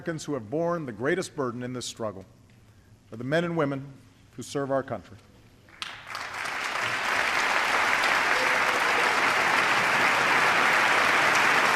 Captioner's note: applause